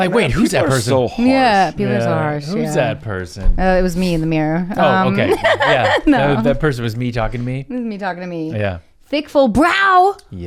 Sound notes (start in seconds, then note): 4.9 laughs